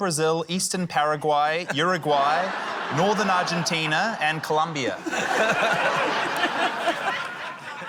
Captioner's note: laughter